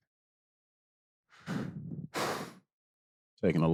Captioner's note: exhales sharply